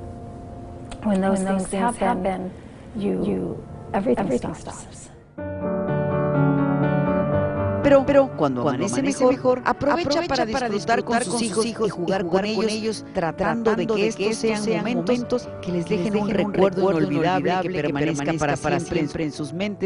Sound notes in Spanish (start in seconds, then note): 14.5 habla en ingés